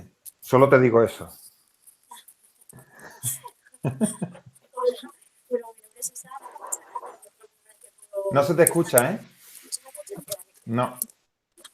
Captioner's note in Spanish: risas